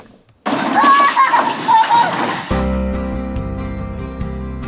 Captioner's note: laughing